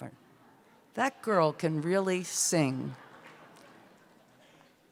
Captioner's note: laughter